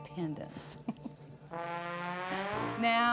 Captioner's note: chuckles